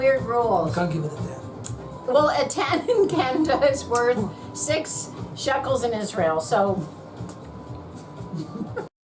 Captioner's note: giggling; both laughing